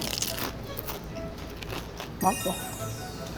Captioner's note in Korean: 아그작